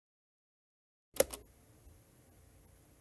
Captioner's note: cassette player click